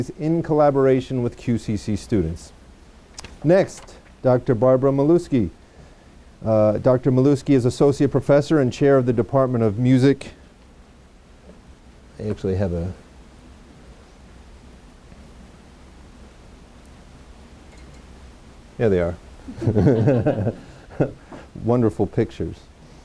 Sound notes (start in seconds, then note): 19.5 laughs